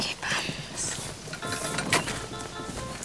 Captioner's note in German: Handyklingeln